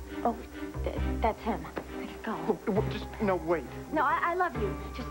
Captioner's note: horn honks